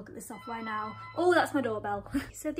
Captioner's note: doorbell rings